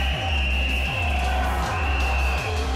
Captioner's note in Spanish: Exclamaciones; Continúan los pitazos